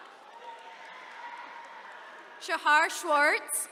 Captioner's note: attendees cheering